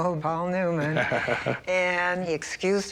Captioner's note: chuckles